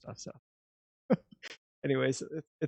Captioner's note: chuckling